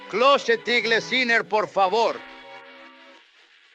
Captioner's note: in spanish